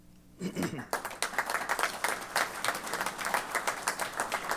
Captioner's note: applause